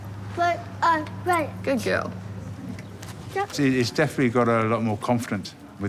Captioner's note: none